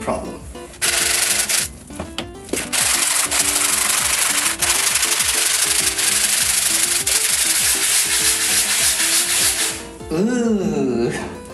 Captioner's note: more sped up scrubbing